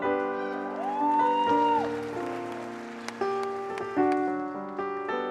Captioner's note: audience applauding and cheering; piano music